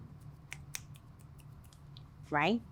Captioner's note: clicking fingers